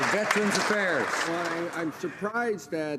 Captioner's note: some Applause